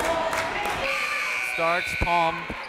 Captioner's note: whistle; buzzer